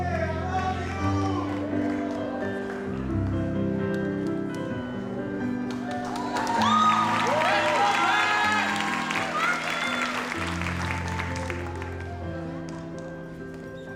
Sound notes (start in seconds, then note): 7.4 audience cheers; 10.8 gentle music